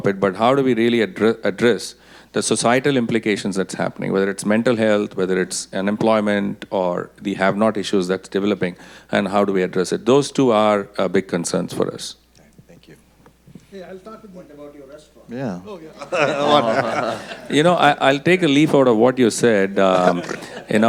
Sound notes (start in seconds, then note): 15.9 audience laughing